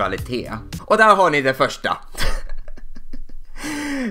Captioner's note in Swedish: Skrattar